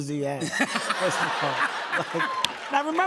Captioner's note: laughter